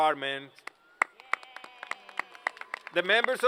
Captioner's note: applause